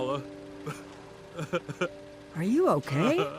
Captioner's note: sobs